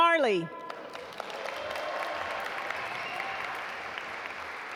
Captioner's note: audience applaud